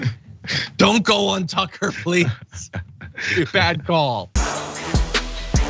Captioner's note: laugh